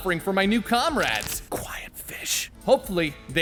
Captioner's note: whisper